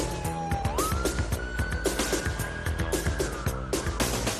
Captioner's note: sirens blaring